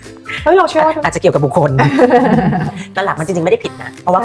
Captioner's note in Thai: เสียงหัวเราะ